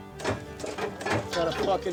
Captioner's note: vehicle thunking